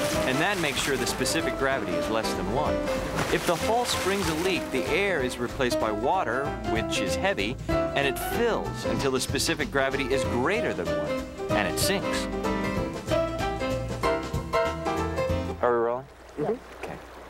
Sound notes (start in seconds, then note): none